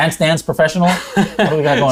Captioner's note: laughs